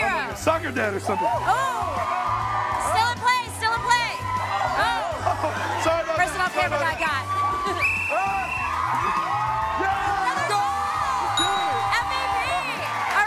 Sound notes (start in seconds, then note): 7.8 whistle blowing; 8.8 cheering